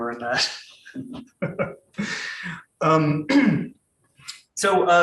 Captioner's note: laughing